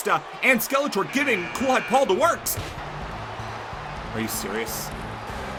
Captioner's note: buzzer buzzes